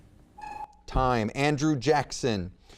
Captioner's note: timer beeps